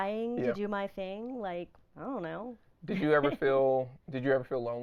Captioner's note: laughing